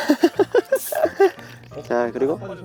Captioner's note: hiss